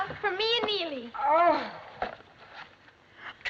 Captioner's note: exclaiming